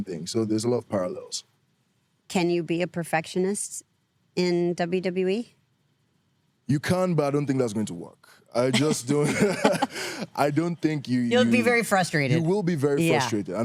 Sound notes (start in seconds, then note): 8.5 laughs